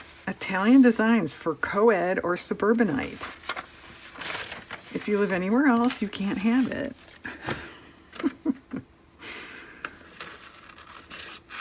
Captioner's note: laughs